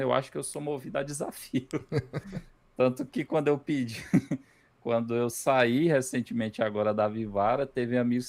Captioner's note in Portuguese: risadas